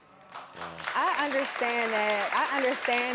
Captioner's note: audience clapping